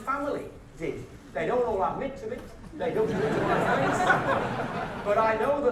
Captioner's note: audience laughter